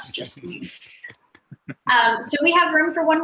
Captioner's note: all laughing